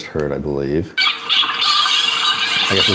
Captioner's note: dolphins squeaking